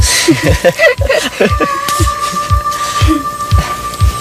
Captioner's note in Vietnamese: tiếng cười